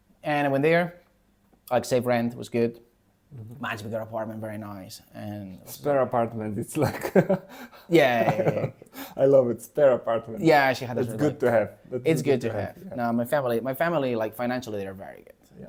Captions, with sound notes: And I went there, I could save rent. It was good. Much bigger apartment, very nice. And... Spare apartment, it's like... [laughs] Yeah, yeah, yeah, yeah. I love it. Spare apartment. Yeah, she had șe had this one room. It's good to have. It's good to have. It's good to have. No, my family, my family, like financially they're very good.